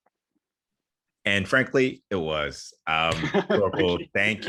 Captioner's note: laughs